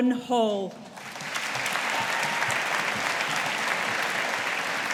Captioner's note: audience applauding